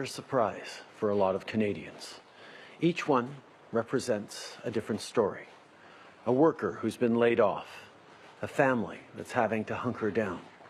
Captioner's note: speaking in French